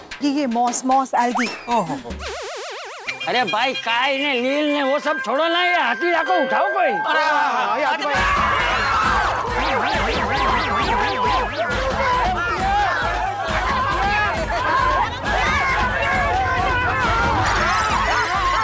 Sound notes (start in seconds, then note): 8.1 screaming; 15.1 indistinct chatter